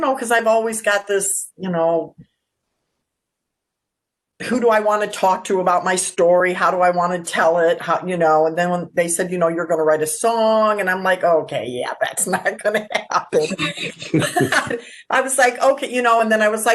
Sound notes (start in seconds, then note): 12.2 laugh